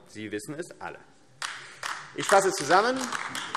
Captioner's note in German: Beifall AfD